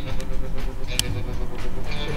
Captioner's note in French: clic de briquet